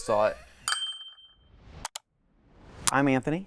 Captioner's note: bell ringing